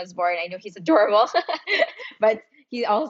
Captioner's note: laughs